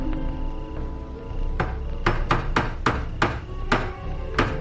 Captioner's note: hammer banging